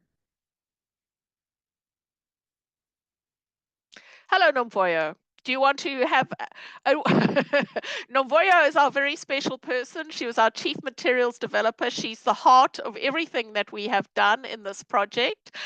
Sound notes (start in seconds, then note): 3.0 laughter